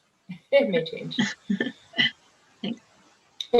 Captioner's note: chuckles